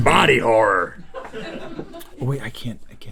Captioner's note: laughing